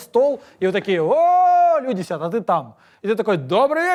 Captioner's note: exclaims